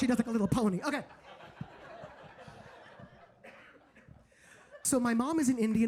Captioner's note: audience laughing